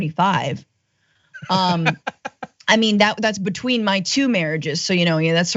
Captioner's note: laugh